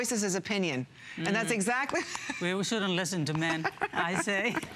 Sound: laughter

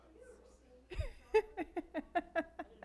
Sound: laughing

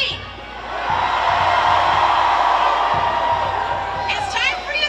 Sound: crowd cheers

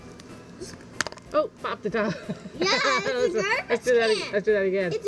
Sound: laughing

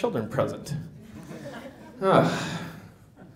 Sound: laughter

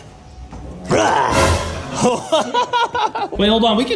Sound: laughs

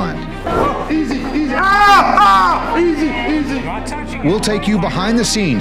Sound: man screaming

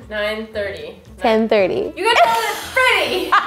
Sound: laughs

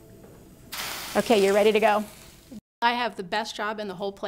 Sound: water sizzling

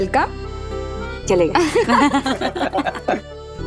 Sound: chuckling

